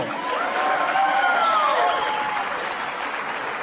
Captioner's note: applause